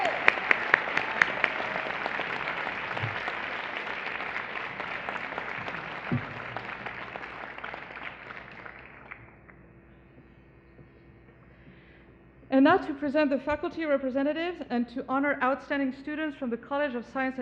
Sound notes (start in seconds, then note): 4.8 applause